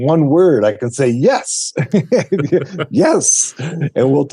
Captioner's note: both laughing